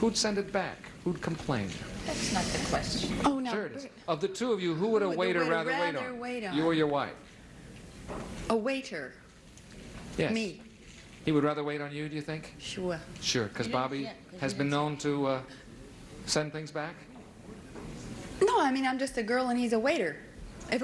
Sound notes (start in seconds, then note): none